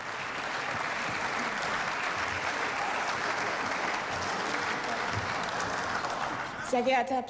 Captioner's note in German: Beifall